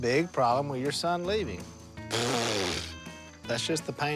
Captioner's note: blows raspberry